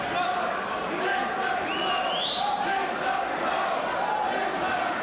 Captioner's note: crowd chanting